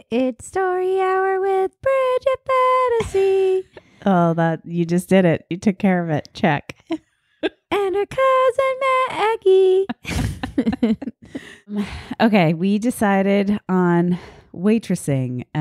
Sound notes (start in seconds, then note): 9.8 laughing